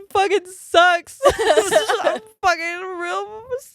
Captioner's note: laughing